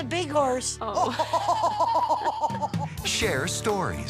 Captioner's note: laughs